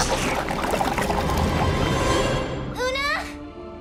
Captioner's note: gurgles